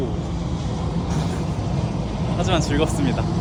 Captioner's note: laughs